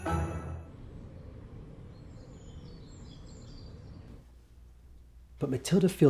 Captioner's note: birds chirping